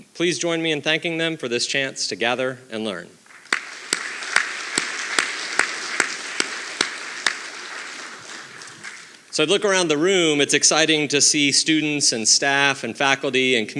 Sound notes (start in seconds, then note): 3.3 audience applauding